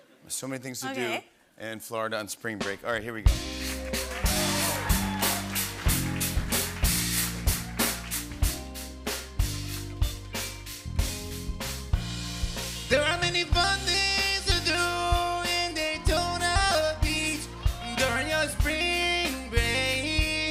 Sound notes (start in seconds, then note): 3.6 cheers and applause